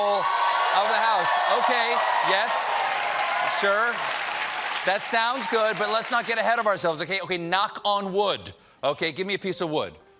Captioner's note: cheers and applause